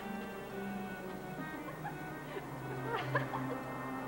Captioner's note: women giggling